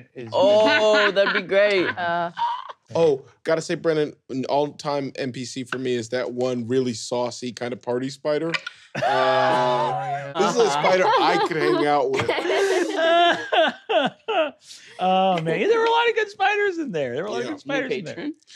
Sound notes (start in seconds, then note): 12.9 laughing